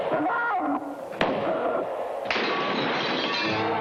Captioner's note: guns firing; glass breaking